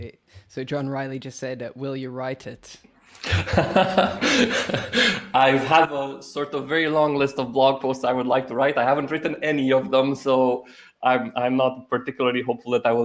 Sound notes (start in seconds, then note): 3.2 laughs